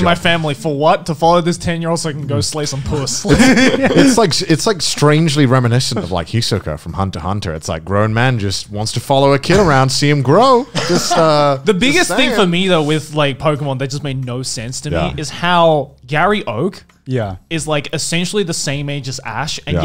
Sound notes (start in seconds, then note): 3.2 laughing loudly